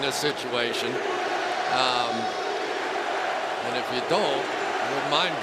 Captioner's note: crowd chanting, "defense"